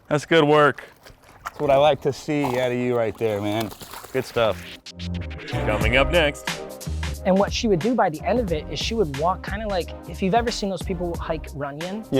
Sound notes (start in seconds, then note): 4.0 dog shaking